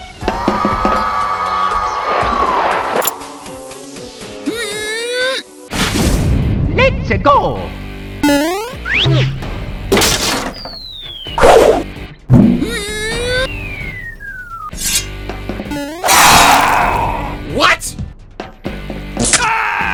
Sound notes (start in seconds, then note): 12.4 Mario's making weird noises again